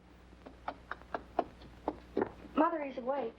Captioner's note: footsteps approaching